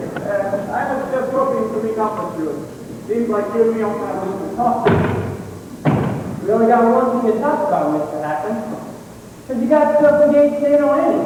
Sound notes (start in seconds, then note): none